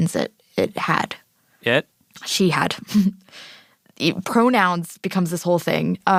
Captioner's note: laughs